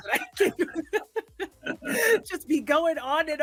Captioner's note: both Laugh